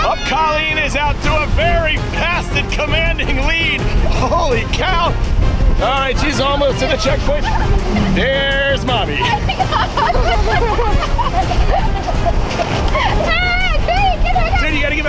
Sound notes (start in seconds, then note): 9.4 laughing